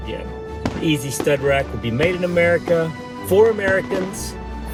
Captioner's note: fireworks crackling